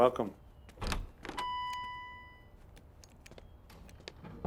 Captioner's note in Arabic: رنين جرس الباب